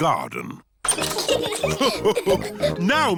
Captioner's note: all laugh